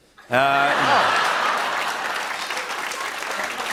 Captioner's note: cheers and applause